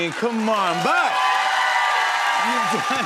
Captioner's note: cheers and applause